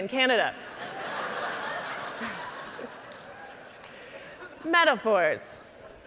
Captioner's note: audience laughing